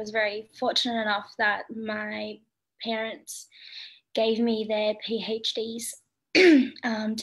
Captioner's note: clears throat